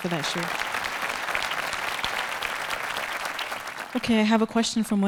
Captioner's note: audience applauding